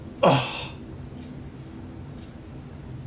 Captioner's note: sighs shortly with more emphasis